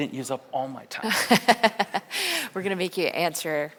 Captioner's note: laughs